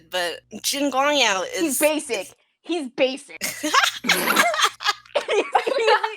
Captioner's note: laughter